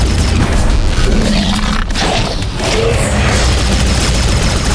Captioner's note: 2Bells growling